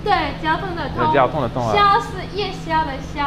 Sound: mandarin

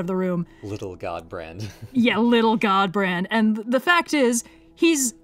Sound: laughs

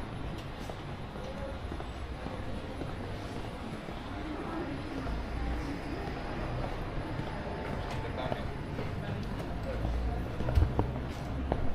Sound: people chattering

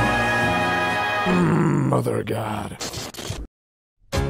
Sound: groans again

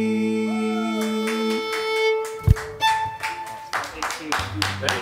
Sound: applause

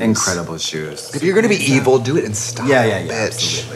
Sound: beep

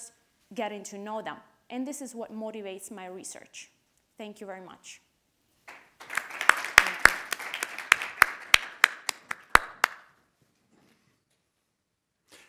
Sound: audience applauding

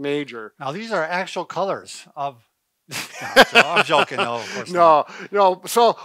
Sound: chuckles

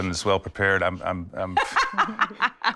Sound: laughter

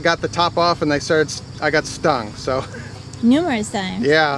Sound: laughs

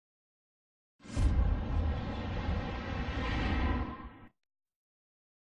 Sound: dramatic sounds; silence

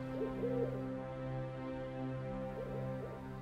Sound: ינשוף צועק

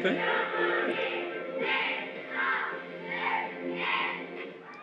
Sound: Clear MOA's cheering sounds

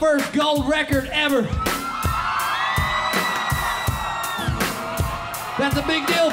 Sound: crowd screams

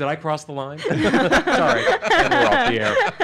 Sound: everyone laughs

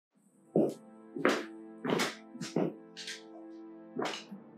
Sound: loud foot steps

